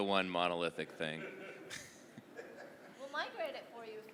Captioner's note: laughter